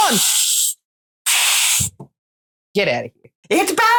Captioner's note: hissing